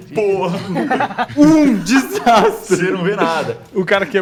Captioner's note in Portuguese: Risadas